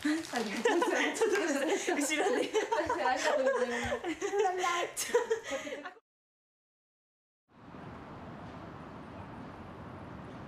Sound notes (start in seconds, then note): 0.0 sound of vinyl; 0.6 laughter